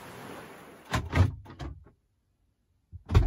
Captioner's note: car unlocks